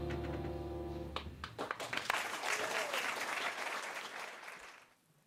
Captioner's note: applause